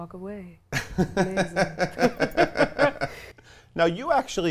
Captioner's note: laughs